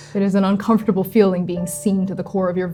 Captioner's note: panicked breathing